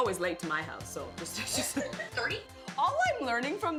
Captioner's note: laughing